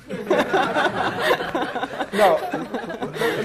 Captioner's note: laughing